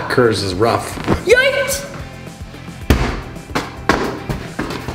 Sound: exclamation sound

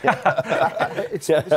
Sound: laughter

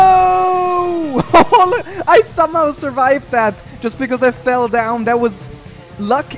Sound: laughs

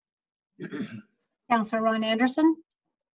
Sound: clears throat

